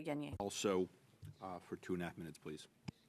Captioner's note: speaking French